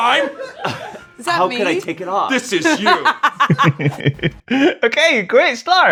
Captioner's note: laughter; laughter